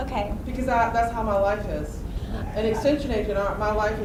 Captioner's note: voiceover